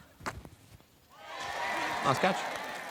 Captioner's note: applause